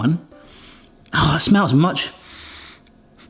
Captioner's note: sniffs